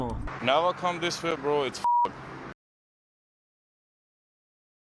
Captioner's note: beep